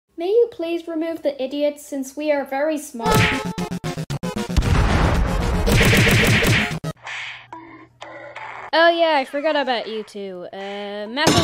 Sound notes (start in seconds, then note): 2.9 Henry Screams and Music Plays